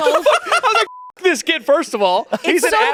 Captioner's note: beep